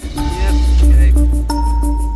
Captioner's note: starts car